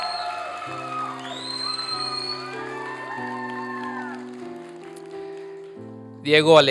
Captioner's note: applause and cheering